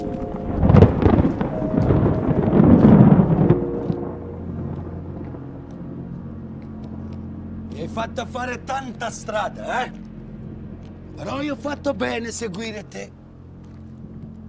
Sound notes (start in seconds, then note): 0.0 thunder rumbling